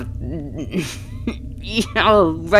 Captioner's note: choking, coughing